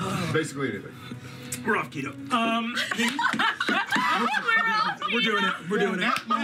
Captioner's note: laughter